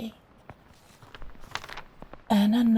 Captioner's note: page turn